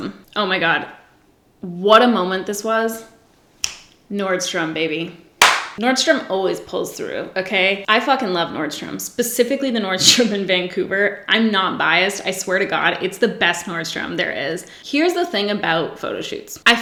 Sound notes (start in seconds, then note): 3.6 snaps fingers; 5.4 claps